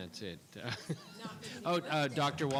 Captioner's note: laughing